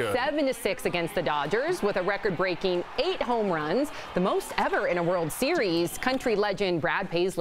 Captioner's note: applause